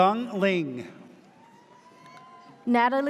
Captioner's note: audience cheers